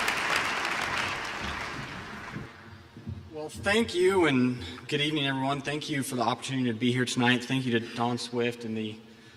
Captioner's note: applause